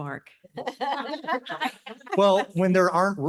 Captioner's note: laughter